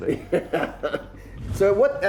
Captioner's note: laughs